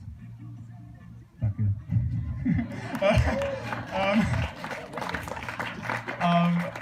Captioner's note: embarrassed; applause, solitary cheering